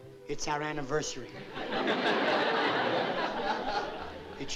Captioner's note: laughter